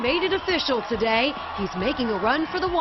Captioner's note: cheering